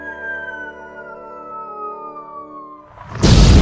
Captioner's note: incoming whistle; kaboom